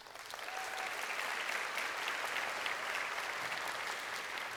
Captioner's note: crowd applauding